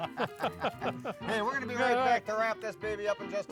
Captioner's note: laughing